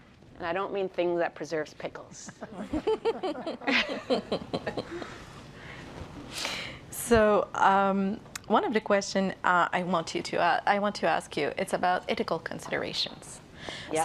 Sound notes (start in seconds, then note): 2.2 laughter